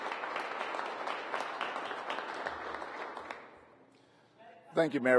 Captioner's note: applause